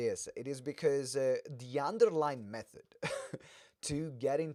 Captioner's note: laughs